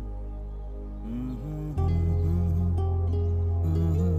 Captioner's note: Humming